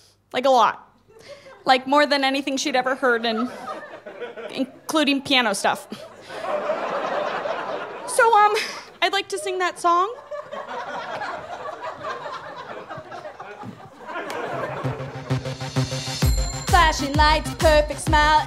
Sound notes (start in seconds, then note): 5.9 audience laughter; 10.1 audience laughter; 14.7 driving synth music; 16.6 singing off-key